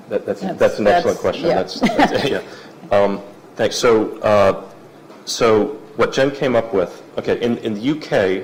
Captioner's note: laugh